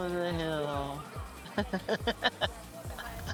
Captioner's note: laughs